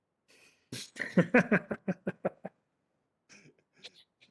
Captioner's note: laughing